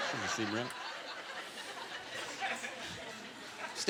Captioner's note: scattered laughter